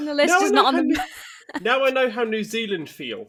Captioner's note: laughs